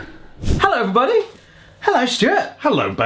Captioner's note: scene whooshing